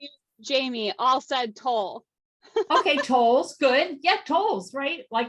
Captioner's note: laughs